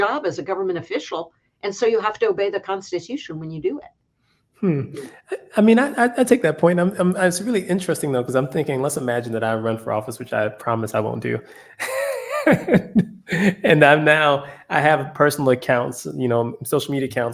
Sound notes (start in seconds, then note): 11.7 laugh